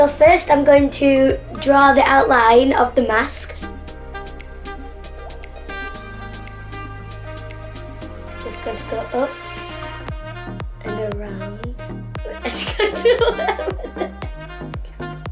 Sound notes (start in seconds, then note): 7.5 laughs